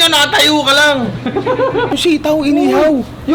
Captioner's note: laughter